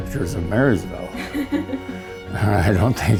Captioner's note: laughing